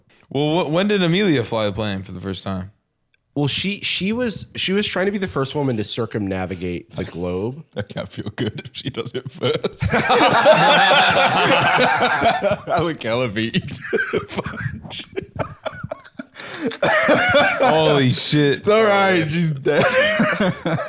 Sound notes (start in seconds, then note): 10.3 all laughing; 15.5 laughing